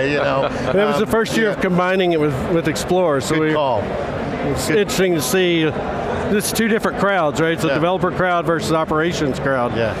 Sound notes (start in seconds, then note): 0.0 laughter